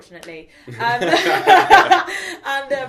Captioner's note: both laugh